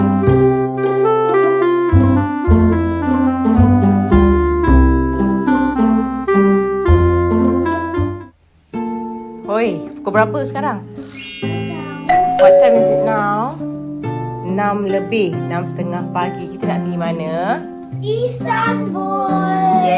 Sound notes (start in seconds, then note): 11.0 notification bell